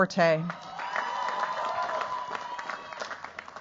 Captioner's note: cheers, applause